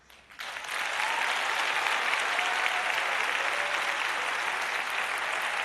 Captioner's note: applause